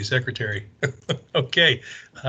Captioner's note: laughs